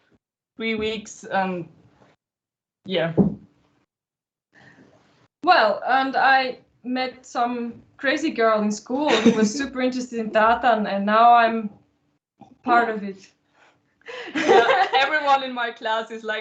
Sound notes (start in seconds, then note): 14.1 laughter